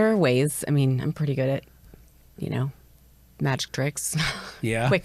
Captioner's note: chuckles